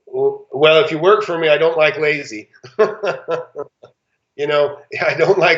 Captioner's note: laughs